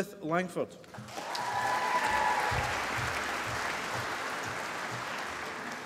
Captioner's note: applause